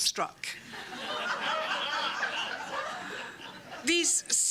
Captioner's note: laughter